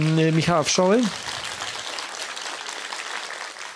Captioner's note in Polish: oklaski